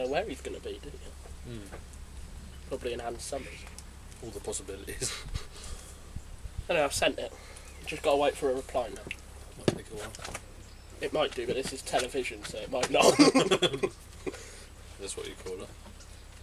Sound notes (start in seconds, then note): 12.9 they laugh